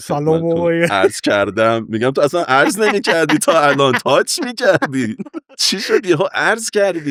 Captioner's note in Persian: خنده